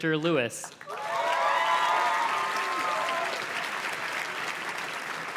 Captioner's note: audience cheers and claps